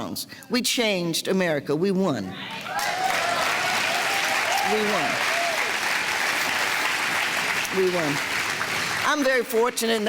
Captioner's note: clapping